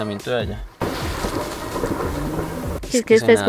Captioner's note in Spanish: Sonido de deslizamiento